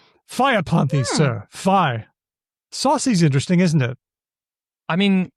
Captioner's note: chuckles